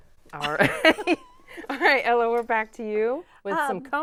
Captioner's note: laughing